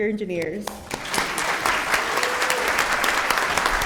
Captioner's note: applause